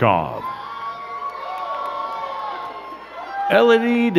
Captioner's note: crowd cheering and clapping